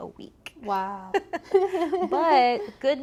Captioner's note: both laughing